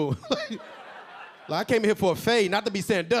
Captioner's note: LilRel laughing; audience laughing